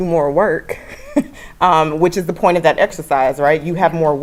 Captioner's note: laugh